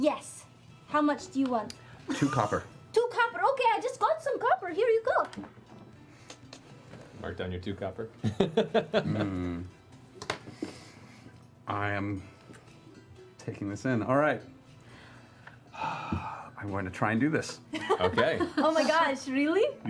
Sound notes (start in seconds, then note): 7.3 laughs; 12.9 sighs